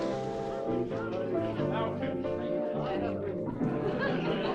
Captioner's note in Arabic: الضيوف يتحدثون